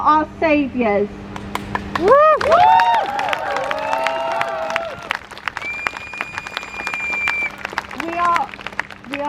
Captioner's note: crowd cheers